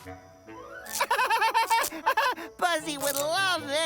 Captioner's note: laughs